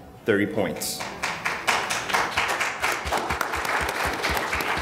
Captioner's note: audience applauding